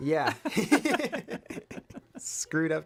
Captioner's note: laughter